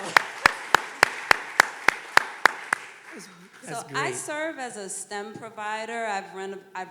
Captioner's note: everyone clapping